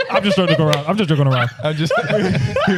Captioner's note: laughing